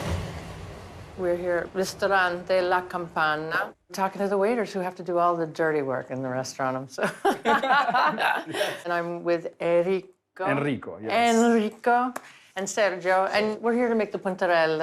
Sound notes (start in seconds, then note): 7.1 laughs